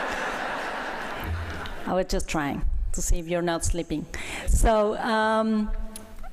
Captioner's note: laughter